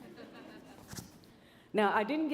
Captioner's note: audience laughing